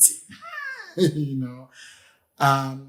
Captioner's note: laughs